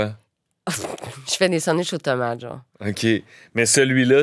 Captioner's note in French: rire d'